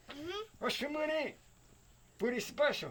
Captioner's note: speaking Yanomami